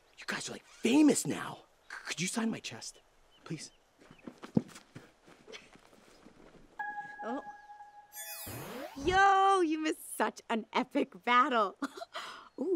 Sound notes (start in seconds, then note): 6.8 chiming